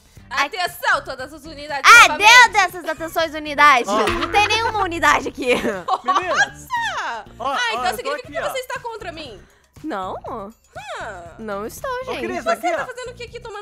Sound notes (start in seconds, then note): 3.9 laughter on the background